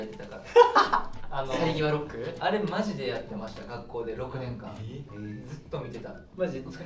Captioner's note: laughs